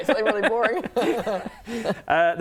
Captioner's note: laughs